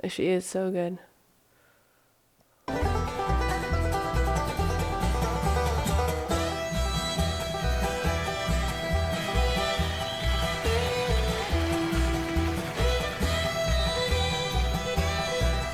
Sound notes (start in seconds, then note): 2.6 upbeat jazz music; 10.1 audience applauding